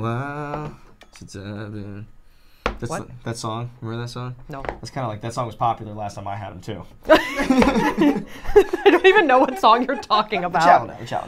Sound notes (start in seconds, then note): 7.1 all laughing